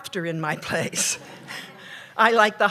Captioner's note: laughter